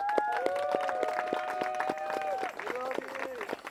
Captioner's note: applause